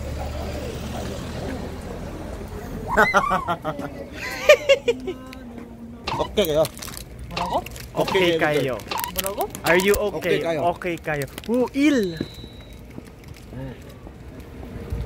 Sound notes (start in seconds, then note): 4.6 heeeheeeeheeee